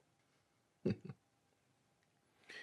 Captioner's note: laughs